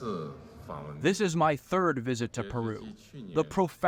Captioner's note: through translator